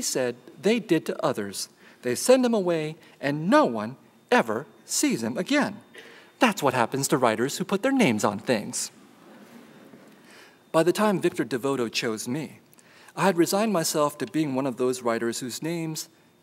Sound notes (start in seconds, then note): none